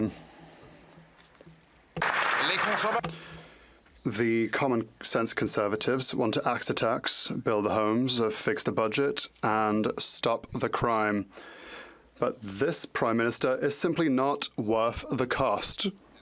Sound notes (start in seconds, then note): 0.0 some Applause; 2.3 speaking French